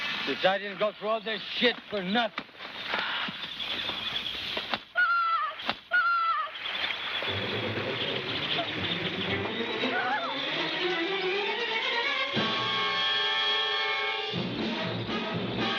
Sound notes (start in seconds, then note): 2.5 gun firing; 9.0 dramatic music; 11.0 gun firing